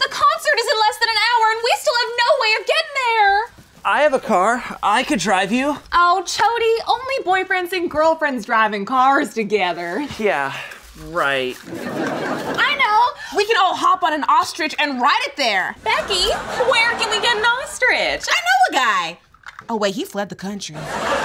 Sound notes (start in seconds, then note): 11.6 laugh track; 20.8 laugh track, applause